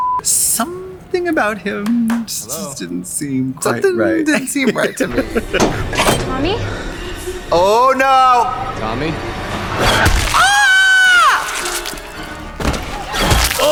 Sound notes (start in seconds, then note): 10.4 Trixie squeals; 11.2 blood squelching